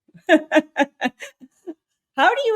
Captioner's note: laughing